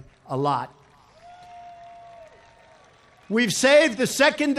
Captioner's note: applause